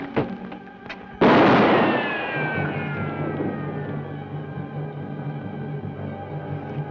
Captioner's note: bow twangs; gun fires; bullet ricochets